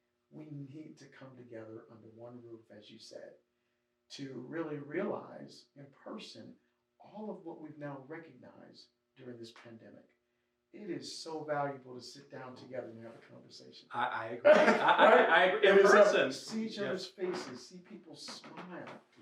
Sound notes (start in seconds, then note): 13.9 laughs